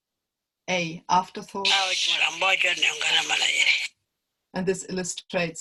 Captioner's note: language other than English